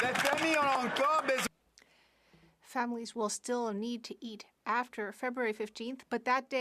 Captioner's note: some Applause